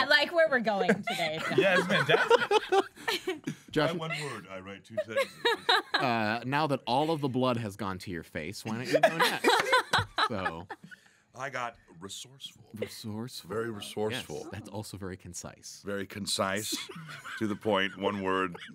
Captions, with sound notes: - I like where we're going today guys. - Yeah, I admit (laughing drowns out speaker). - Jot one word, I write two sentences. - Now that all of the blood has gone to your face, why don't you go next, so. - I got resourceful. - Resourceful. - Very resourceful. - Yes, that's also very concise. - Very concise, to the point, one word.